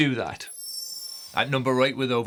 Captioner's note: screen twinkling